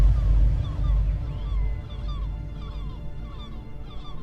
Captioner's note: thunder clapping